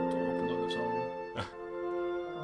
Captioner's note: NinjaFish laughs